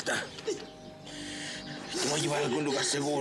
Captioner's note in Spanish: sollozos